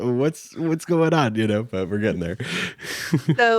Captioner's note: chuckles